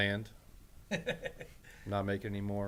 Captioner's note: laughs